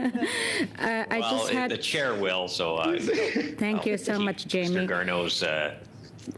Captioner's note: laughter